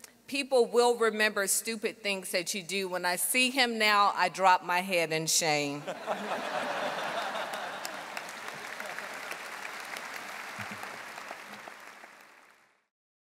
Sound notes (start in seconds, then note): 5.8 audience laughing; 7.8 audience applauding